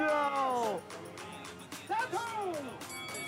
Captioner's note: speaking Japanese